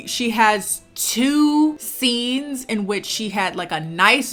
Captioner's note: none